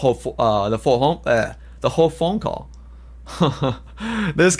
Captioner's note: laughs